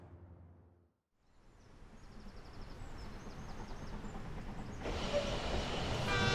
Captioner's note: train engine chugging